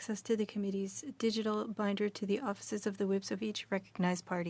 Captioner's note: speaking french